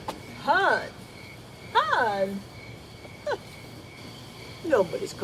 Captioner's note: scoffs